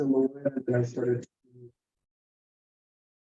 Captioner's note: audio cuts out